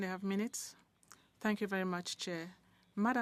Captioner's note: speaking French